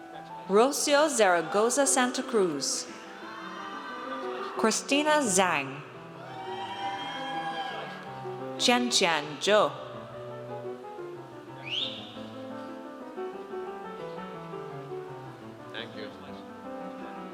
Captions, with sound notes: Rocio Zaragoza Santacruz. (audience cheers) Christina Zhang. (audience cheers) Qianqian Zhou. - Thank you.